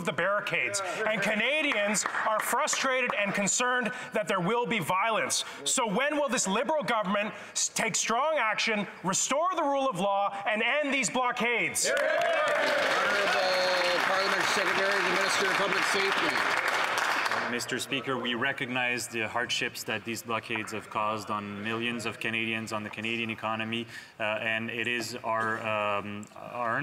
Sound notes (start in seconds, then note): 15.5 applause